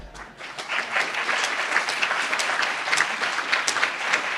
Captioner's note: laughs; applauds